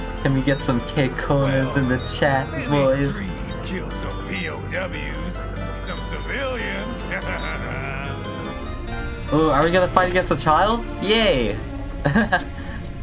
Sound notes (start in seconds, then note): 6.9 laughs; 12.0 chuckles